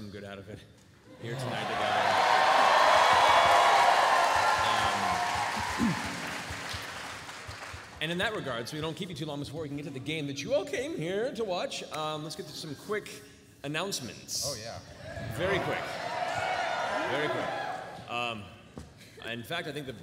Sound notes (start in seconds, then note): 1.1 cheering